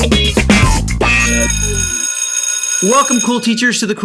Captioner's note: bell ringing